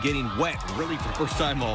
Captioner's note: cheers